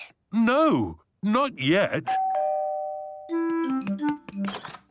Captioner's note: doorbell rings